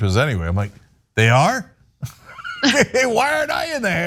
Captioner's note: laugh